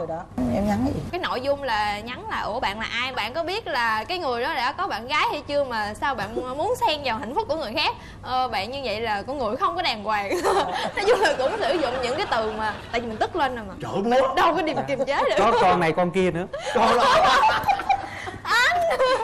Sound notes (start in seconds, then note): 16.6 laughing